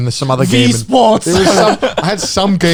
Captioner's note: chuckling